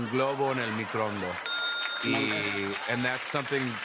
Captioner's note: laughter and applause; ding!